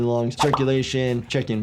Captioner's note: bubble popping